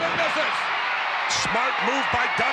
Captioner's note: audience cheering